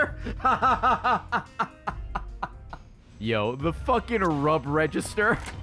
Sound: laughs

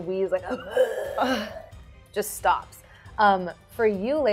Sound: wheezing

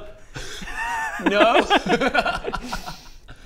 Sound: taunting laugh; giggles?

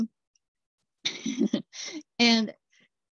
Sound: laughter

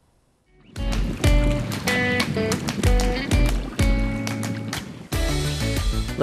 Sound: bright music; water rushing

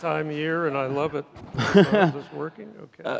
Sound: laughs loudly

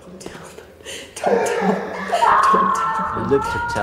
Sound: A woman screams

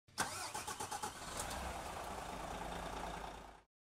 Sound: engine revving

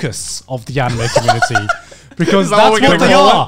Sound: laughing

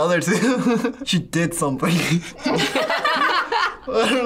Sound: laugh; laughs

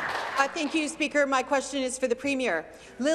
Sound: applause

